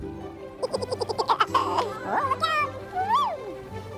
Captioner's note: laughing